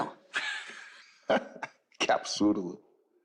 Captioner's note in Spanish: Risas